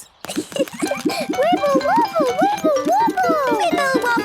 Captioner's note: giggles